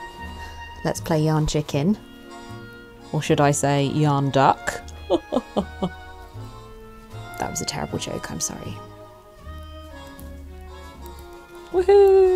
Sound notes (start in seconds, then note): 4.9 chuckles